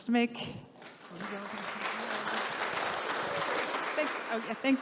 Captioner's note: audience clapping